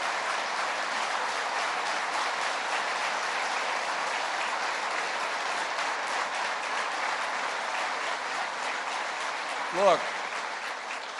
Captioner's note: applause